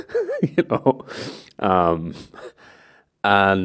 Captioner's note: laughs; laughs